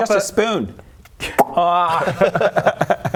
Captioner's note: pop